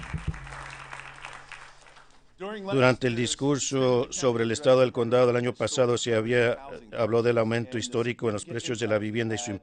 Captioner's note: applause